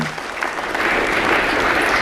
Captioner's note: applause